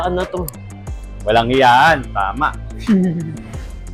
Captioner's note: laughs